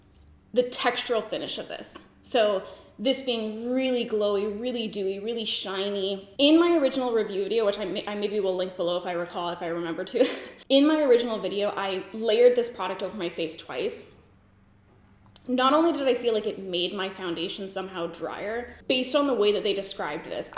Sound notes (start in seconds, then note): 10.2 giggles